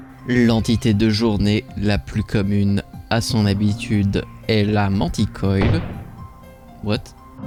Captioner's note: gunshot